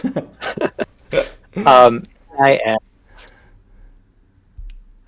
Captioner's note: laughs